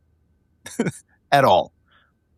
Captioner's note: laughing